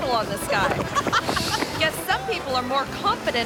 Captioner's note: person laughing